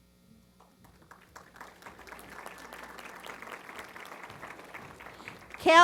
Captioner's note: applause